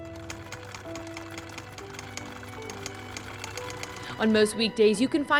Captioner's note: sewing machine whirring